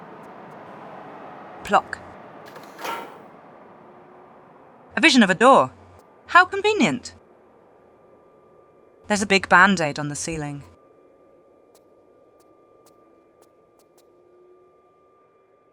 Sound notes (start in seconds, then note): 2.5 bam